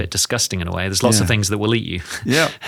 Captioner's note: chuckles